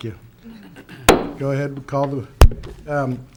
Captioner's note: gavel knocks